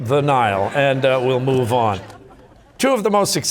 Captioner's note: audience laughter